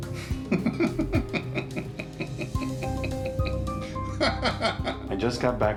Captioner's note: laughing